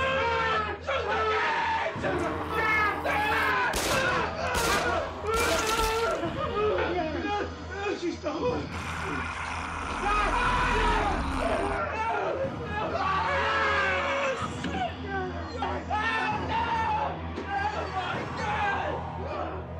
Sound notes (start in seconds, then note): 0.1 yelling; 3.7 gunshots booming; 8.6 snarling; 9.8 yelling